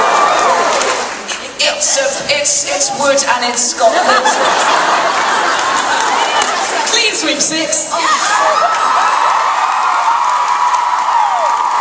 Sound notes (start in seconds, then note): 8.0 audience cheering